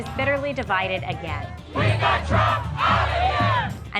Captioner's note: chanting